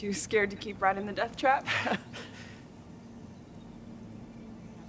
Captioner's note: both chuckle